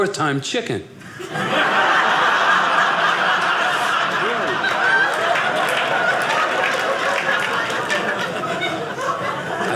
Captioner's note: audience laughing